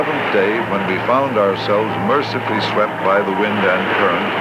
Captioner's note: waves crashing